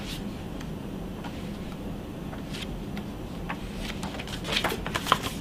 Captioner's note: pages rustling